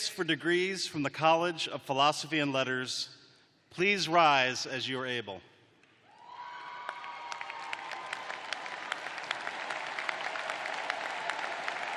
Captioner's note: cheers and applause